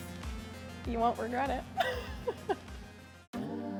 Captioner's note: laughs